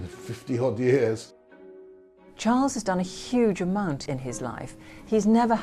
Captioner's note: voiceover